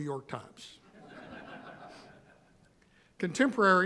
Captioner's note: audience laughing